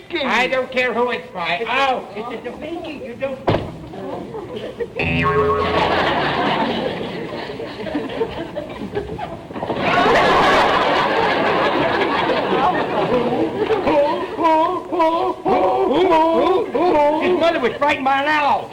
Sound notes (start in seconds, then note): 3.4 door slams; 5.0 audience laughter; 9.8 audience laughter